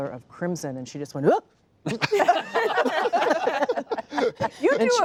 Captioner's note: laughter